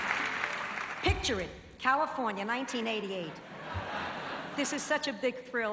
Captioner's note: laughs